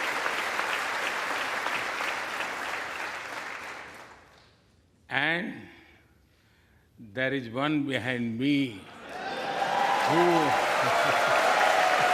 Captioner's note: applause